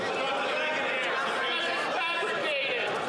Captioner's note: yelling